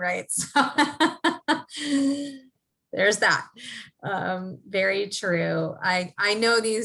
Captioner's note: laugh